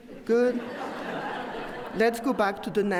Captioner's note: audience laughs